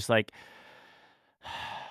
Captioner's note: sighs